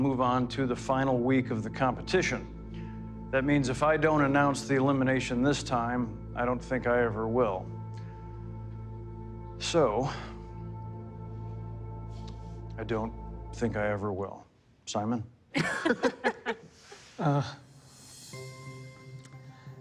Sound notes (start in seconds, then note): 10.5 sighs; 15.6 all laughing